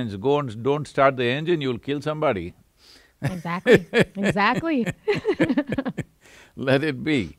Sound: both laugh

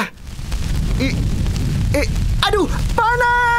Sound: screams

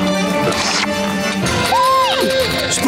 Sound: gasping

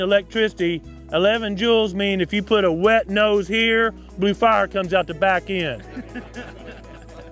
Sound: laughter

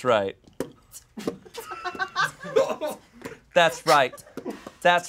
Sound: beatboxing

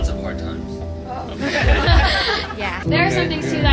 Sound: laughter

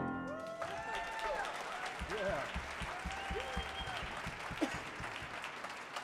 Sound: audience cheers and applauds

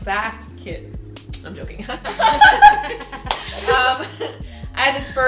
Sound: laughter

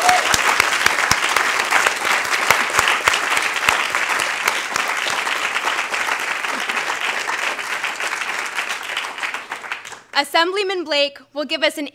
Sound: applause

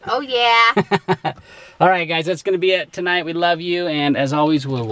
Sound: laughs

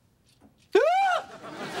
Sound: shrieking

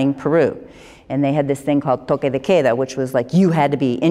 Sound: speaking spanish

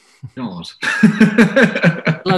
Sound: laughs

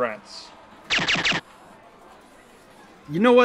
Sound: speaking Russian; gun fires

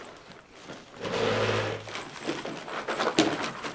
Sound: chair drags against floor

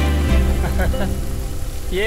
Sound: laugh

